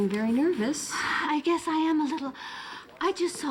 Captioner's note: sighs